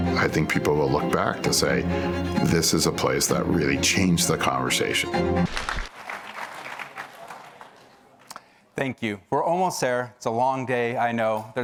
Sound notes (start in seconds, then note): 5.4 applause